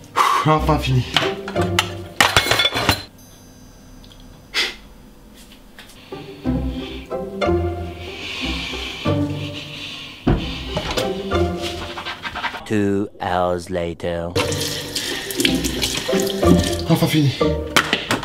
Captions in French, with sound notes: Hou ! Enfin fini... *Bruit de ver* *Soupir* Deux heures plus tard... Enfin fini..